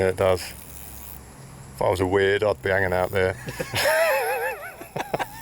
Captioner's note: laughing